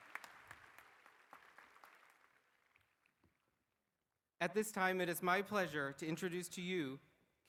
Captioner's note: applause